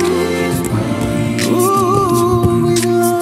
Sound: vocalizing

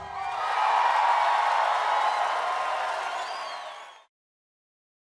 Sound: crowd cheering and applauding

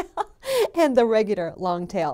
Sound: laughs

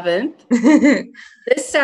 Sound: chuckles

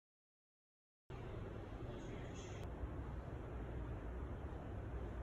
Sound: art gallery air humming

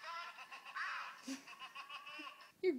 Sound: Ice laughs

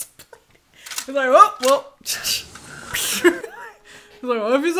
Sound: imitates gun corking

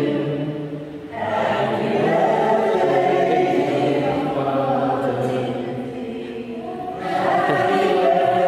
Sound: chuckles

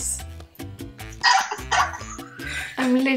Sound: laughing

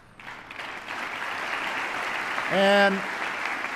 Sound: applause

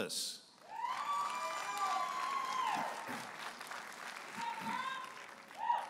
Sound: audience applauding and cheering

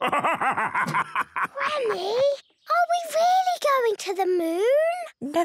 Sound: whispers

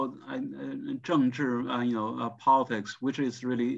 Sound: speaking in foreign language

